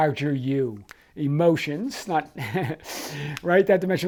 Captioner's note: laughs